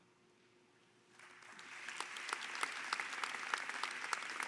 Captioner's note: applause